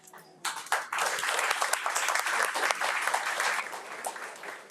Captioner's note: audience applauds